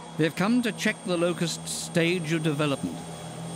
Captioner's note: none